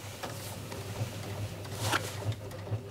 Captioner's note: rattling of the sewing machine